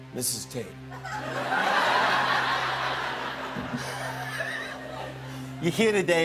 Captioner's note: laughter